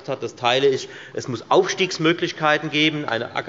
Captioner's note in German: none